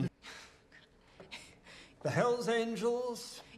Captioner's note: Kate chuckles